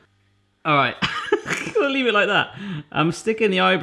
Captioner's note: laughing